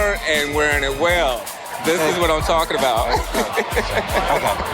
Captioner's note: laughs